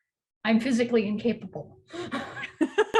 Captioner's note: laughs; chuckles